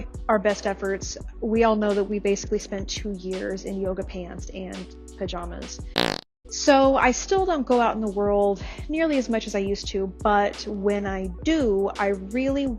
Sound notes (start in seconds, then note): 5.9 loaf fart